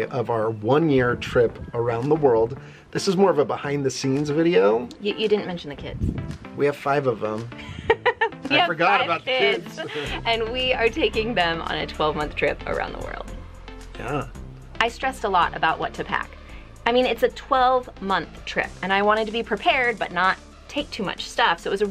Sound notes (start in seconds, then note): 7.6 laughs